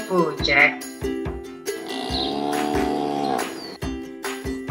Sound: cow moo

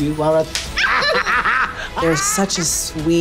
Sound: hands clap; both laughing

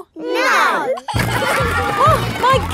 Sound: giggling

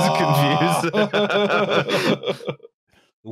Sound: laughing; laughter

